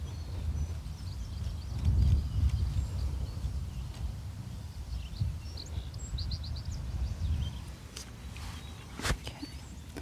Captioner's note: birds chirping